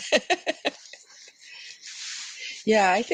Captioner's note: laughter